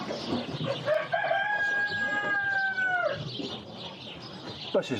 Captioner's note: birds chirping; rooster caw